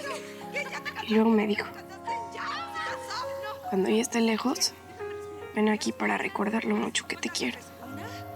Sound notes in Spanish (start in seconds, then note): 1.2 voz de emiliana